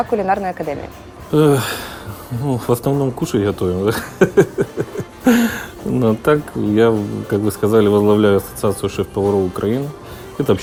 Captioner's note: laughter